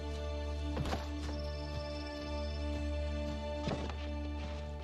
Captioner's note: branch thuds